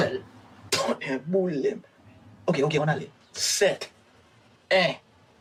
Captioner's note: speaking in Creole; character speaking in Creole